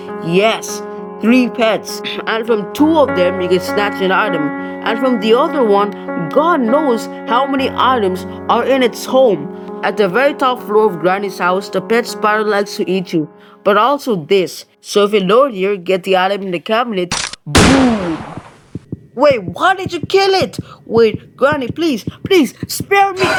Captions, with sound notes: Yes, THREE PETS. And from two of them you can snatch an item, And from the other one, GOD KNOWS how many items are from its home! In the very top floor of the house, the pet spider likes to eat you, but also this. So if you lure it there, get the item in the cabinet, BOOM! [Heartbeat plays in the background] Wait WHY DID YOU KILL IT! Wait Granny, Granny, PLEASE, SPARE ME-